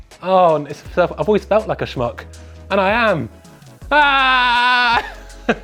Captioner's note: yells